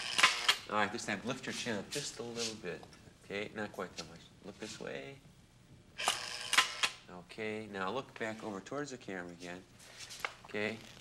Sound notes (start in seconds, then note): 0.1 camera clicks; 6.0 shutter clicks